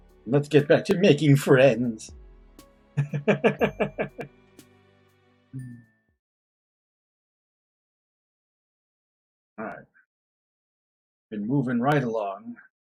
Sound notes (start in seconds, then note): 3.0 chuckles